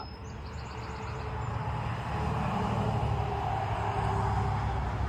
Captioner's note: vehicles swooshing